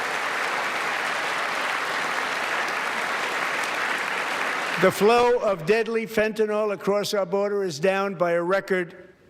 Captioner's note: applause